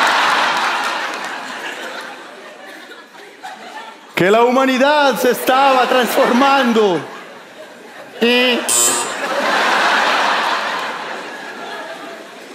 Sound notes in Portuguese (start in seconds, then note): 8.6 campainha; 8.7 imita campainha